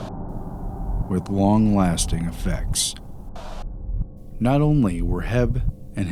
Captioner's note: static; static